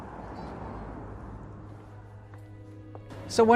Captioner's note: footsteps